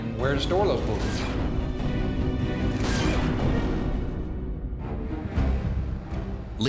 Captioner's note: laser weapon sounds